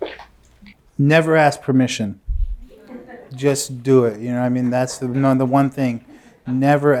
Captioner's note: laughter